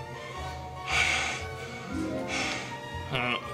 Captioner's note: heavy breathing